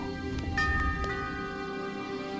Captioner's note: bell Rings